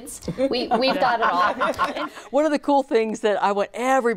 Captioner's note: group laughs